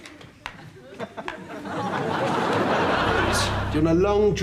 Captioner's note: audience laughs